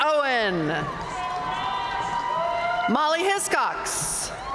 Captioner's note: audience cheering and applauding